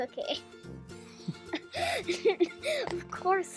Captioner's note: laughs